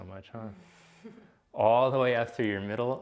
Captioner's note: giggles